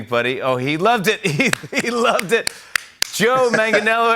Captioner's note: chuckling